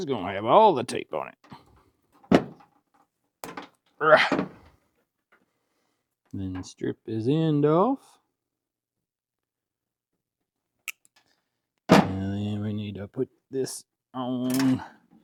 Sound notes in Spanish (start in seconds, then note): 4.0 Grunts